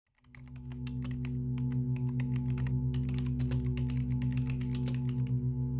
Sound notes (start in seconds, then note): 0.1 keys clicking; 1.7 gentle mysterious music